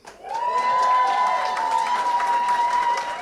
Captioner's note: cheering & applause